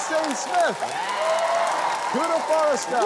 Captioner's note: cheering, applause